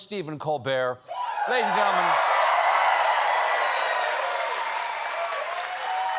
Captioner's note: cheers and applause